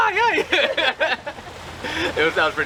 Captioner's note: laughs quickly